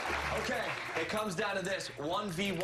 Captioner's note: applause